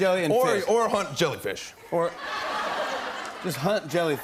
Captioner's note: laughter